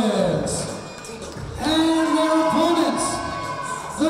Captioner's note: crowd cheering